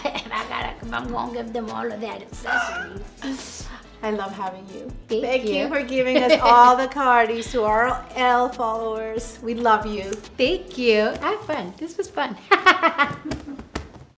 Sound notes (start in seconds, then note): 3.6 screeching; 12.4 laughter